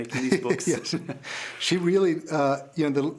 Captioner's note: laughing